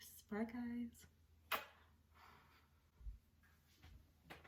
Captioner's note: blowing kiss